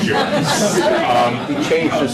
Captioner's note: laughter